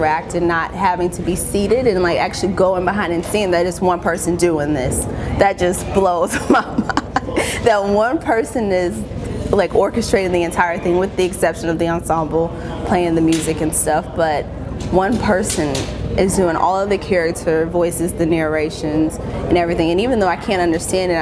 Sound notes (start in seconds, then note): 6.3 laughs